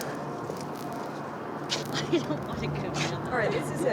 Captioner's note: group chuckling and chattering